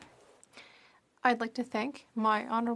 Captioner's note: speaking in French